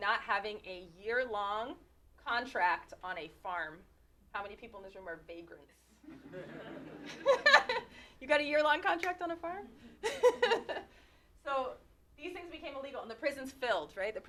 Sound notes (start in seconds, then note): 6.0 laughter